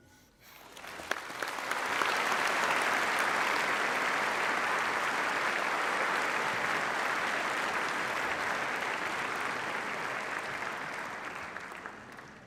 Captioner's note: applause